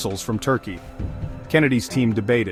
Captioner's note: voiceover